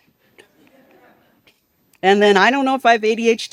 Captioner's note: participants laugh